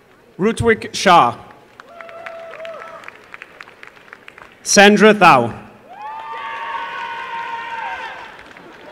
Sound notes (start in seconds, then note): 1.4 applause; 5.8 applause and cheering